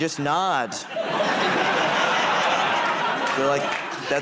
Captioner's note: laughter